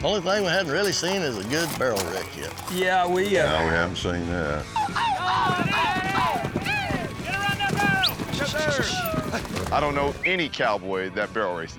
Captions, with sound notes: ONLY THING I HADN'T REALLY SEEN IS A GOOD BARREL RACE YET. YEAH, WE UH- YEAH HAVEN'T SEEN THAT. [CHEERING] GO AROUND THAT BARREL! I DON'T KNOW ANY COWBOY THAT BARREL RACES.